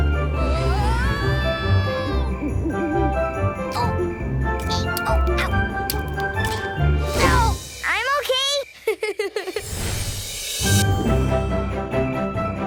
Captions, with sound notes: Whoa! [groaning] Ow, I'm OK! [laughing] [Christmas music playing]